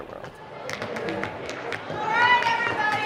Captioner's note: shoes tapping